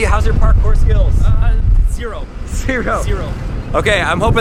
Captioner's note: laughing